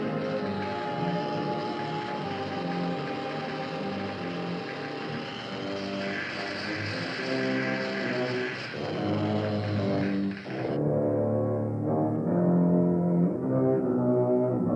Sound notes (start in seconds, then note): 0.8 buzzing